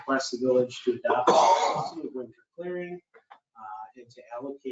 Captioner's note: man coughing